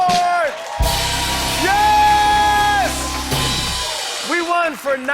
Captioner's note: cheers and applause